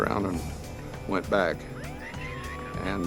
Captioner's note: ambulance siren